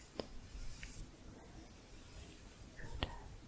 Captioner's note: stroking bristles